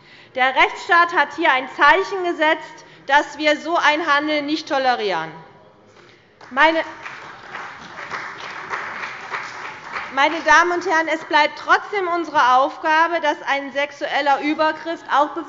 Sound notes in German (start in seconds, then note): 6.4 Beifall bei der CDU und dem BÜNDNIS 90/DIE GRÜNEN